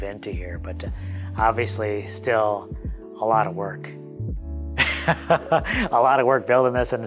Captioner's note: laughs